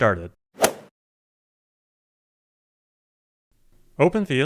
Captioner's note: golf swing sound effect